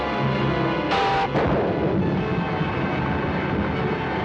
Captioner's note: booming